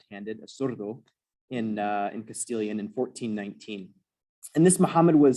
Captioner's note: non-english